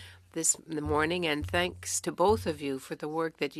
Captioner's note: speaking French